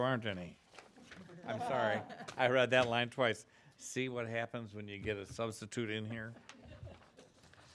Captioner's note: laughing